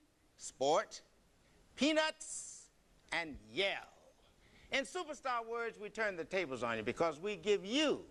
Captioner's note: none